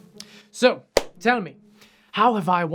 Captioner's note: claps hands